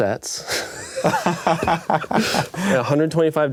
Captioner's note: laughing